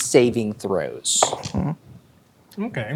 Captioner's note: dice rolling